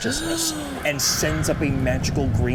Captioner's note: Odie gasps